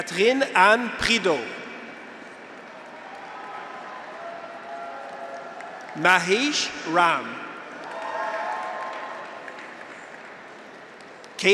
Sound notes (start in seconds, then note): 2.3 graduates cheer; 2.6 audience applauds; 7.5 graduates cheer; 7.7 audience applauds